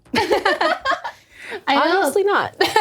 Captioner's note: all laughing